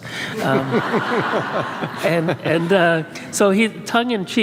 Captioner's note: and audience laughs